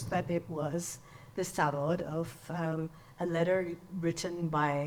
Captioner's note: speaks in foreign language